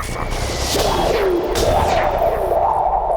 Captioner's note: portal noises